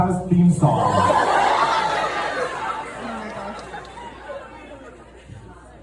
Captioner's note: audience cheers